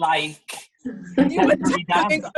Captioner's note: drowned out by laughter